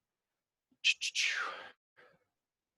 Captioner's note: thinking noise